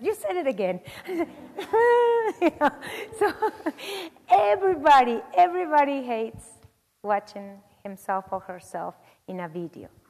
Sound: laugh

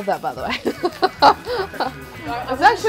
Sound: laughing

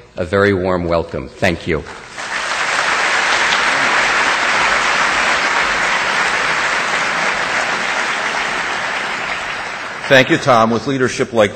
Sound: audience applause

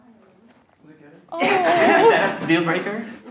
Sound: everyone laughs

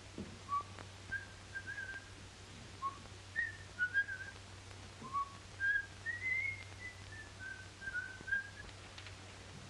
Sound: whistles bridal march

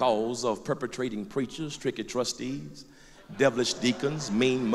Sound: laughter

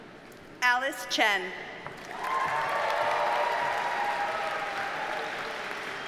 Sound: audience cheers and applauds

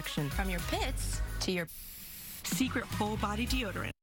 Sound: SFX: deoderant being sprayed

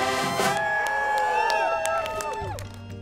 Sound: marching band playing; people cheering; gentle music

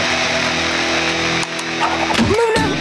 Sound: clicking

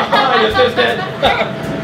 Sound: laughs

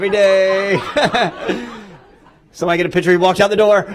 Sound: laughter

